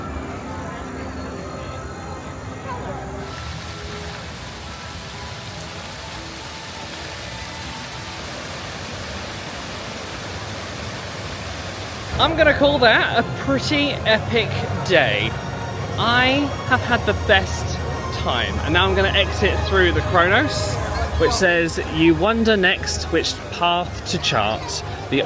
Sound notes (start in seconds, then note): 3.7 fountain splashes